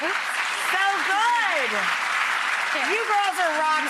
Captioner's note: clapping